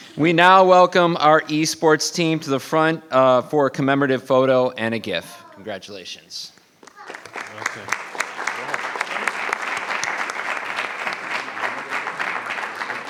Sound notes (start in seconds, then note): 6.9 attendees applauding